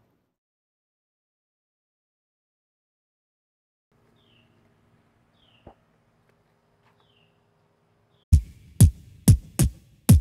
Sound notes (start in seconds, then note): 4.0 birds chirping; 8.1 vocal percussion